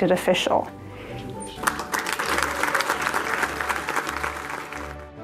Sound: crowd applause

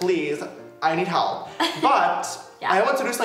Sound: laughs

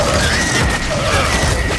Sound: gunshots

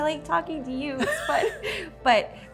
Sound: laughs

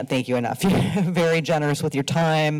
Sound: laughs

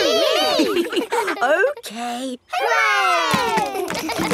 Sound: chuckles

